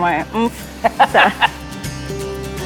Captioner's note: chuckles